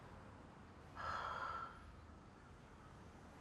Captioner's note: Daniel sighs